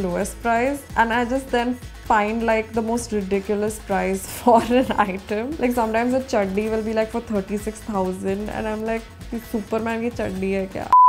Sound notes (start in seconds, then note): 9.2 speaks Hindi